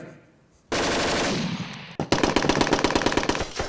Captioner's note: gunshots